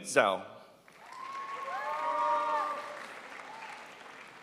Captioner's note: crowd applauds